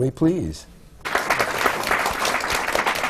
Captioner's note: applause